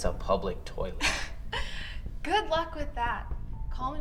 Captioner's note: laughs